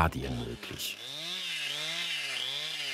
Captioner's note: chainsaw noises